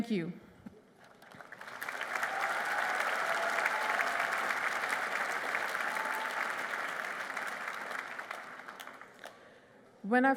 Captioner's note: applause